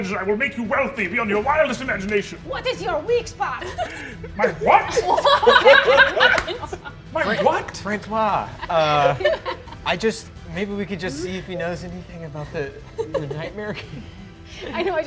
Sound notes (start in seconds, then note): 2.5 bad French accent; 3.4 laughing